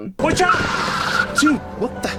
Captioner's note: tires screech